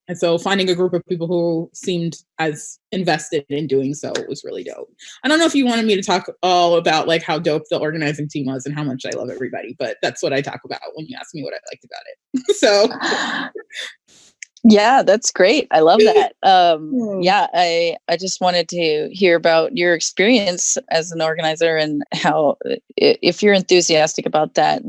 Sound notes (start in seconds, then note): 12.4 laughing